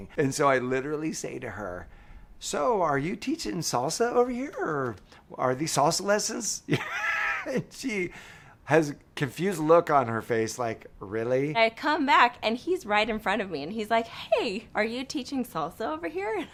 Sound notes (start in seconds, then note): 6.7 laughs